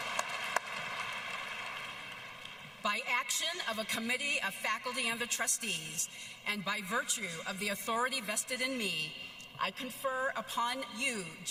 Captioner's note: applause